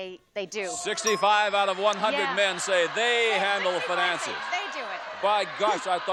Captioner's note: audience yells